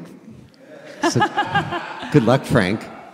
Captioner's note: laughing